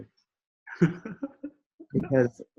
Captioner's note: chuckles